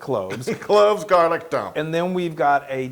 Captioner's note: laugh